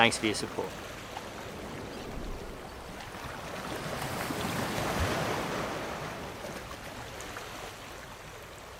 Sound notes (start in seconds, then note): 1.6 calm water rippling